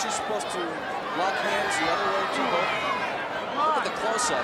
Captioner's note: speaks faintly